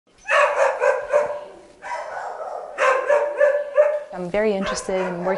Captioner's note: dogs barking